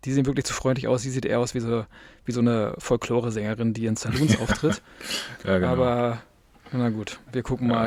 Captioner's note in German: gelächter